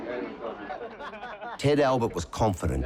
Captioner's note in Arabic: أعضاء الفرقة يضحكون